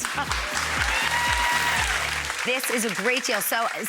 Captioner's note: audience applauds